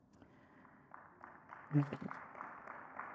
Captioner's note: audience clapping